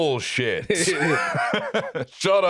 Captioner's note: both laugh